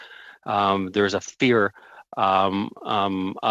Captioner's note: speaking FRENCH